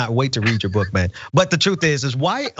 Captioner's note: laugh